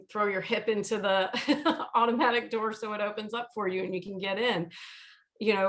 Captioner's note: chucking